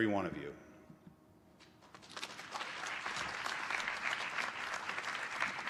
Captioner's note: applause